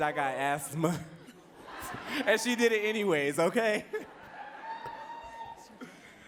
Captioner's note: laughs